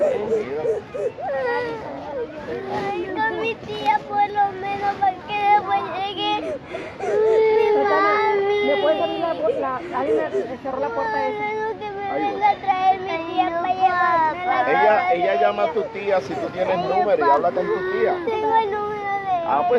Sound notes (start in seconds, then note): 0.2 kids crying; 3.2 speaking in foreign language; 8.9 kids crying; 14.9 speaking in foreign language